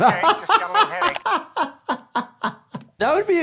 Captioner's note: laughter